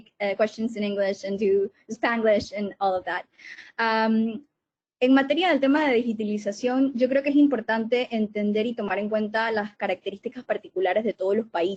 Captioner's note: Spanish